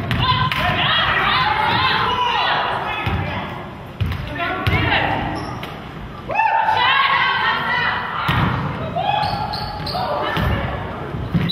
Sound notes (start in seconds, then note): 4.3 crowd